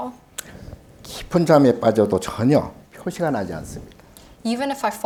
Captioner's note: speaking Korean